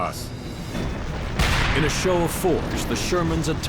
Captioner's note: tank turret fires